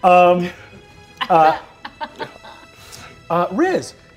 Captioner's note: laughing